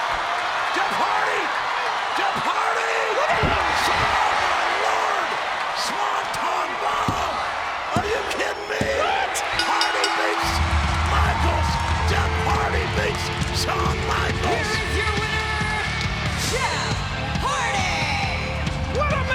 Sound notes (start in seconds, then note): 0.3 audience cheering; 9.5 bell rings